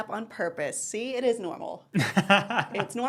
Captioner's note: laughs